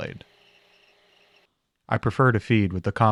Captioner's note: metal scraping